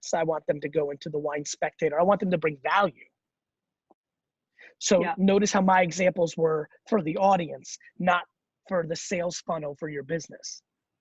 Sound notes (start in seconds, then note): none